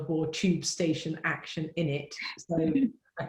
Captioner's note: laughs